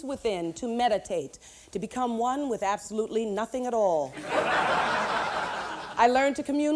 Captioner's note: laughter